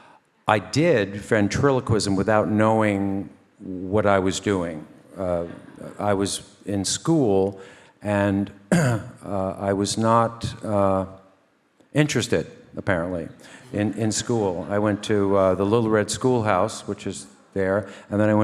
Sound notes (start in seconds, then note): 8.7 clears throat